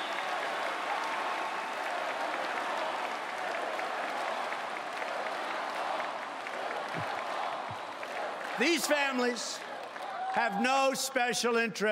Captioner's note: applause